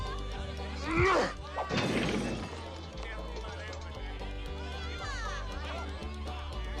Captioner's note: Eli grunts; bottles shatter